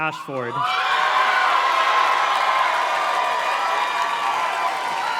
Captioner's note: audience cheers and claps